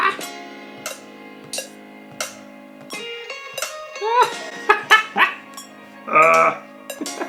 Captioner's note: laughing